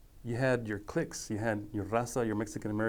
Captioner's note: speaking foreign language